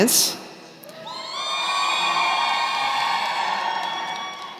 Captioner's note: cheering